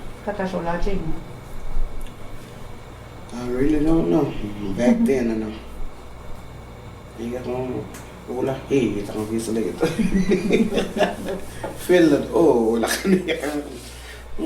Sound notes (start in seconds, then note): 9.8 laughing